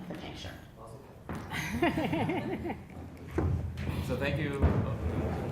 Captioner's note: laugh